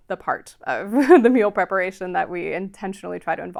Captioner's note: chuckles